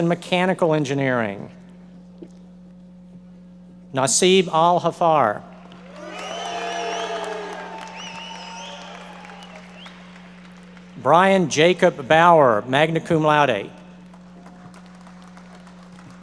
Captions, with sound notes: in Mechanical Engineering. Nasib AlHaffar. (audience members cheering and applauding) Bryan Jacob Bauer, magna cum laude.